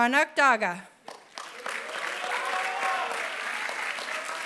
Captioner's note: applause